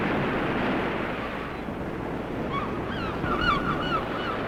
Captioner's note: birds squawking